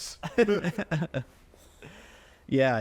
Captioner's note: chuckling